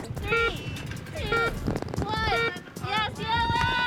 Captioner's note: countdown beeping